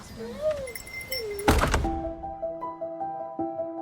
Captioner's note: dog whining, door closing; gentle music